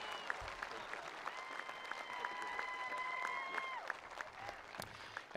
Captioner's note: attendees applauding